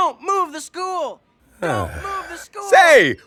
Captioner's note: sighs